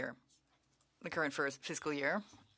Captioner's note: speaking French